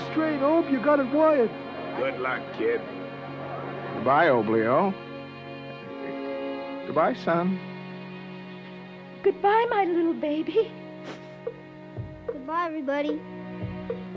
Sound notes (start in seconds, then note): 5.8 crying; 10.9 sniffles